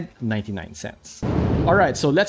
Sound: whooshing

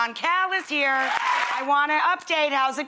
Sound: cheers and applause

